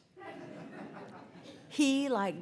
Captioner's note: audience laughs